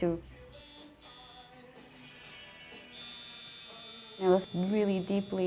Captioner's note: tattoo gun buzzing